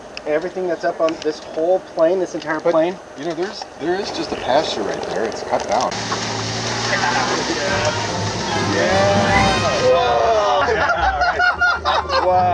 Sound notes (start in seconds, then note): 6.1 brush swishing; 7.4 engine revving; 10.3 exciting instrumental music; 10.3 laughing